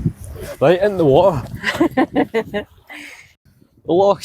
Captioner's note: laughter